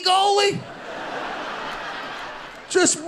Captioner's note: audience laughing